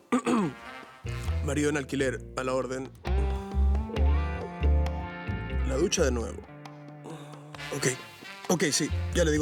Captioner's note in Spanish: Carraspea